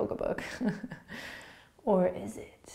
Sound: laughing

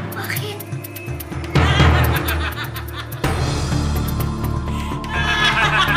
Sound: both laughing

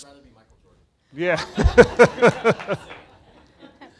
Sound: laughing

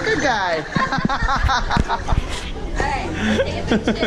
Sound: laughs

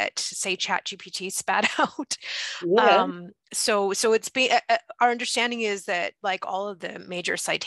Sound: laughs

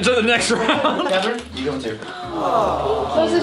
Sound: laughs; awwwwwwwwww

